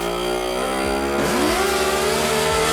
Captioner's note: engine screaming; machine buzzing